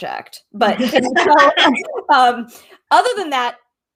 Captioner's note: laughs